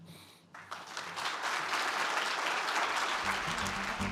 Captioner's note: applause